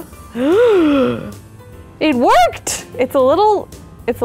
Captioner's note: gasps